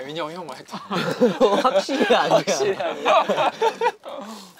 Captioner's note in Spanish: Jajaja